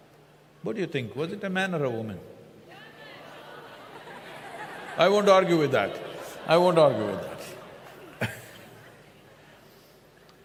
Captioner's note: laughter